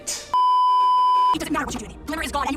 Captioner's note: beeeeeeeeeeeep